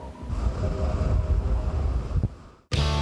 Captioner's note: winds blowing